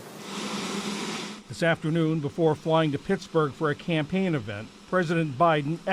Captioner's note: voice-over